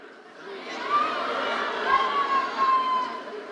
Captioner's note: crowd yelling